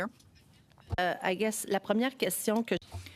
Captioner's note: speaking French